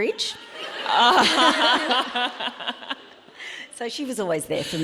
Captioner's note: audience laughing